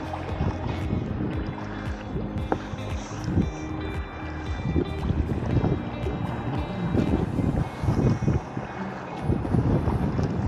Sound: paddling, music & wind

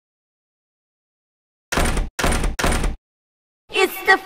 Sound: knocking

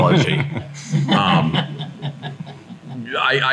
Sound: folks laughing

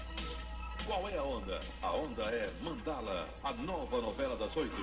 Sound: male announcer speaking Portuguese

